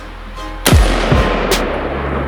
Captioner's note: gunshot